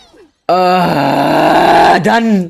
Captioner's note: grunts